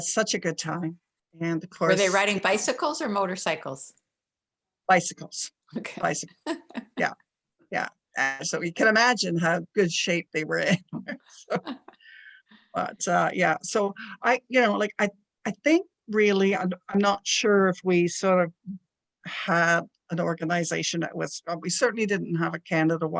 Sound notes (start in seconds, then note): 6.4 chuckles; 11.2 laughs